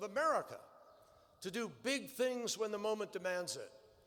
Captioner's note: none